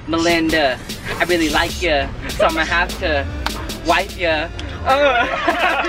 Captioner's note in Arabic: الجميع يضحكون